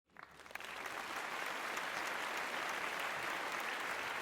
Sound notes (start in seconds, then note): 0.1 audience clapping